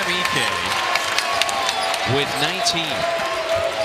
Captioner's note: cheers and applause